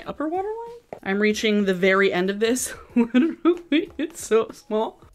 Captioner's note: laughing}